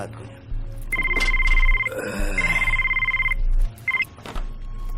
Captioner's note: phone ringing